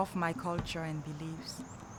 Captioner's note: birds chirping